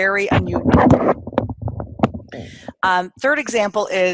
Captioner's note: microphone scratches